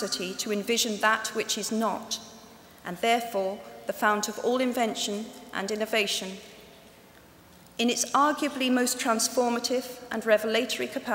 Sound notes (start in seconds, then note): none